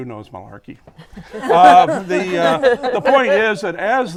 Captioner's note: laughter